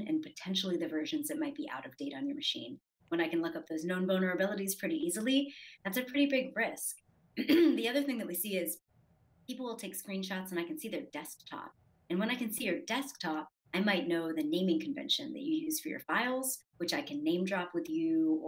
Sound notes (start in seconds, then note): 7.4 clears throat